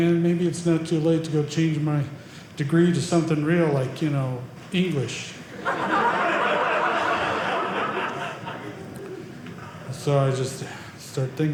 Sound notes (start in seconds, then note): 5.5 audience laughing